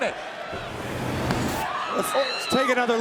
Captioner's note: whooshing sound plays